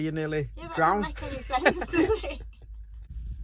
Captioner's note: laughing